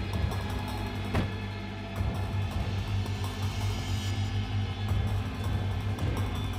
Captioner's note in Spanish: portazo